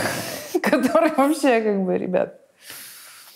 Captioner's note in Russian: смеясь